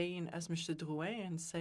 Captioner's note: speaking in French